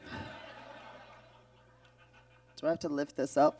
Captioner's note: audience laughs